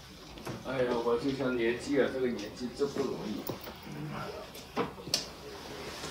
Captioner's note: speaks in Chinese language